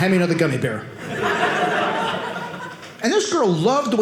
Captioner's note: audience laughing